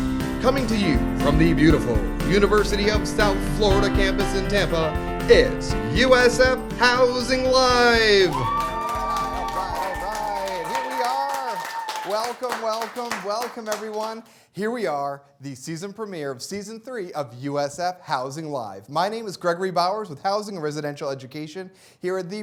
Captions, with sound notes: Coming to you from the beautiful University of South Florida campus in Tampa, it's "USF Housing Live!" [CHEERS AND APPLAUSE] >> All right, here we are. Welcome, welcome, welcome, everyone. Here we are, the season premiere, Season 3 of "USF Housing Live!" My name is Gregory Bowers with Housing and Residential Education here at